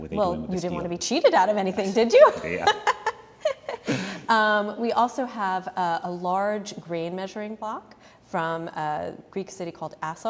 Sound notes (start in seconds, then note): 3.4 laugh